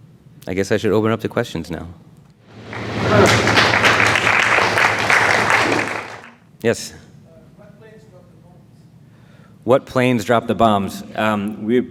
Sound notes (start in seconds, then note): 2.5 audience applauds